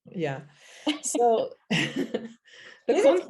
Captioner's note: laughs